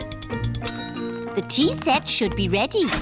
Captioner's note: bell dings